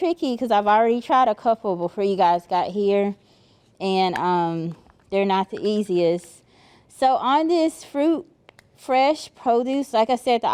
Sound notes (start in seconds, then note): none